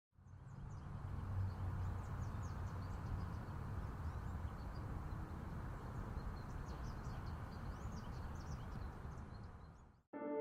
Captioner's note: ambient nature sounds, birds tweeting